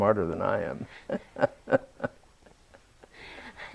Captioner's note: laughs